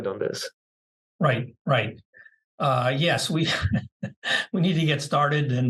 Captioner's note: laugh